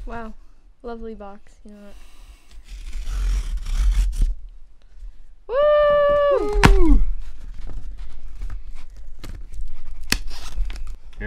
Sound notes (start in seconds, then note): 2.6 tape ripping; 7.1 box rustling